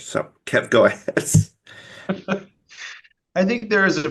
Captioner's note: both laughs